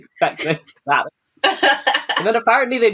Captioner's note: laughs